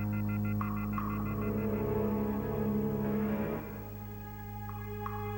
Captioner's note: tephone beeps